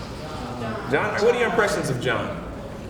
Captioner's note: crowd